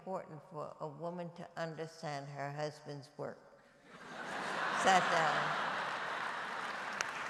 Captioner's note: laughter and applause